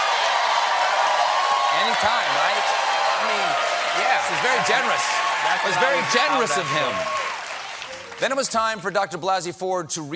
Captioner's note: cheers and applause